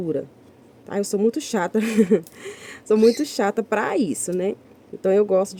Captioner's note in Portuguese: risadas